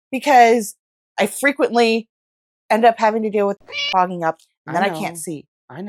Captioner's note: meow